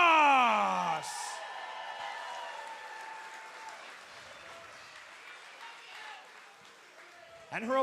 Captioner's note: cheers and applause